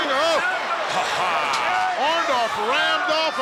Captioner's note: Jesse laughs